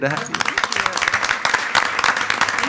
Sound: attendees applauding

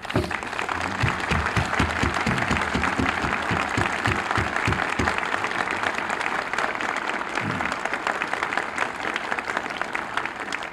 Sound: applause

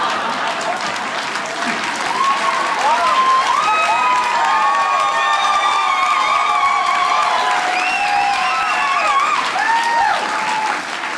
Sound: sinister laugh; audience applauding

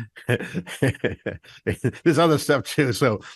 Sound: laughs

